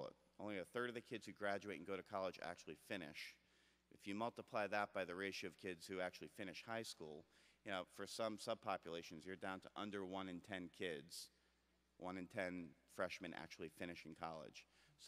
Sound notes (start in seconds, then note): none